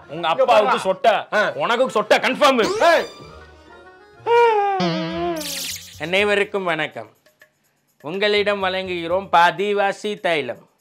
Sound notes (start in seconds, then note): 4.2 Child Sudha Crying like a baby